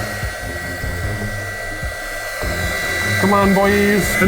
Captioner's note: heat guns flaring; tense music